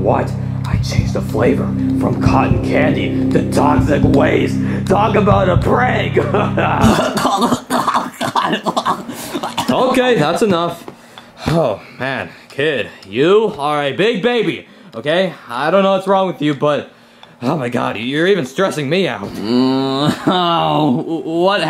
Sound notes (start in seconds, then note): 6.2 laughs; 6.4 Junior coughs